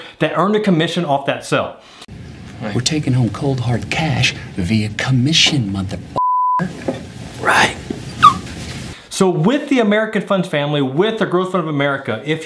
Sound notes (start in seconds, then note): 8.2 man squeaks